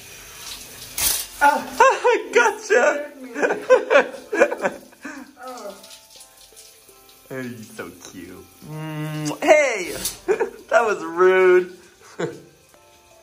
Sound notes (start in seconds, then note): 1.5 screams; 2.7 laughs